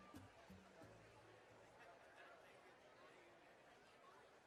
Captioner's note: background Talking